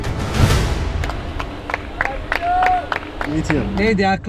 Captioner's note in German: klatschende Zuschauer